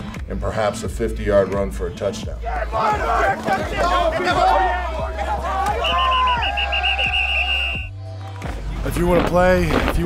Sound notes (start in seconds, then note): 2.4 players yelling; 5.7 whistles blowing